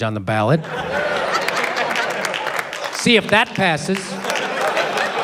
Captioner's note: applause